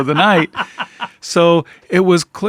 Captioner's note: laughing